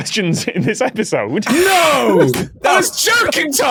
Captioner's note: laughs